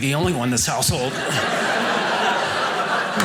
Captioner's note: audience laughing